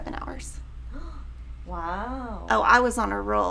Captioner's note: gasps